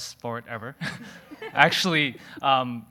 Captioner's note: audience laughing